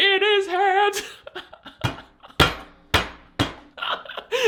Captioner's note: laughing